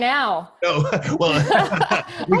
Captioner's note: laughing